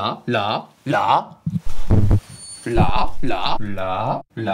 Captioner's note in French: le micro siffle